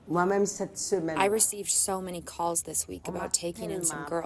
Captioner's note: through translator